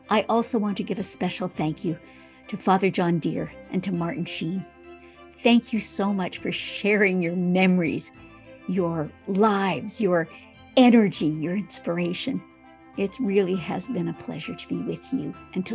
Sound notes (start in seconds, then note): none